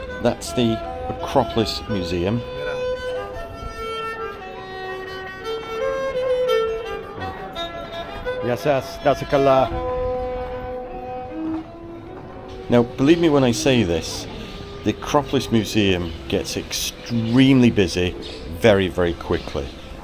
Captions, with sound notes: that's the Acropolis Museum. (speaking in foreign language) Now, believe me when I say this, the Acropolis Museum gets extremely busy very, very quickly.